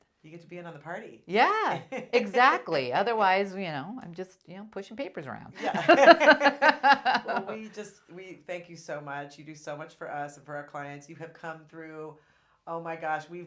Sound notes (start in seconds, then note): 1.4 laughs; 5.6 laugh